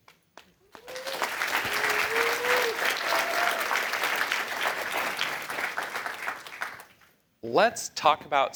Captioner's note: applause